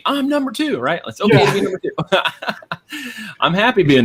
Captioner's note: laughing